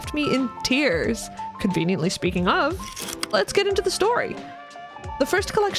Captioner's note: projector slide click